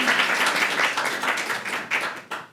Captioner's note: applause